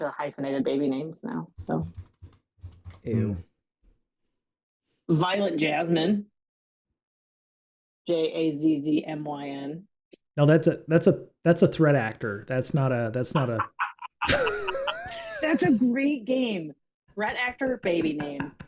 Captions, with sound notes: hyphenated baby names now. So-- Ew. Violent Jasmine. J-A-Z-Z-M-Y-N. No, that's a threat actor. That's not a-- [LAUGHTER] That's a great game. Threat actor, baby name.